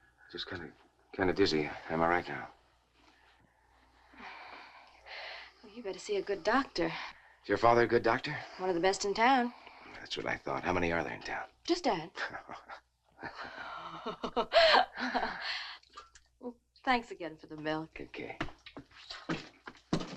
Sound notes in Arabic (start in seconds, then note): 13.3 نيل تضحك; 14.1 نيك يضحك